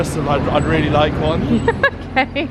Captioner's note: laughs